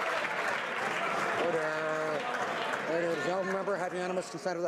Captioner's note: some Applause